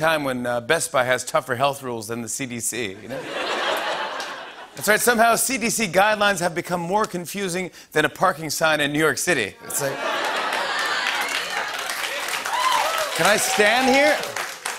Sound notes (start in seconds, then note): 3.0 laughter; 9.6 laughter; 11.4 cheers and applause